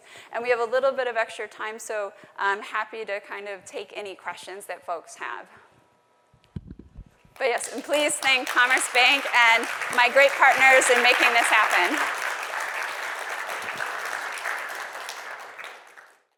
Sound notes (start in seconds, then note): 11.9 applause